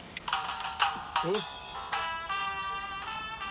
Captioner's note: radio plays